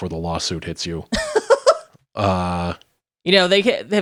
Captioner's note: laughing